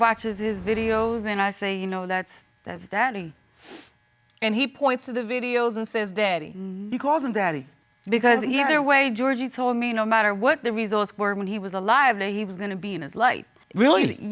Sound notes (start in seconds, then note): none